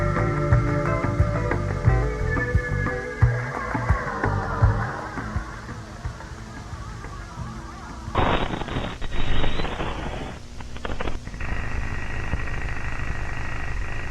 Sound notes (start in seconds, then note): 9.1 static hissing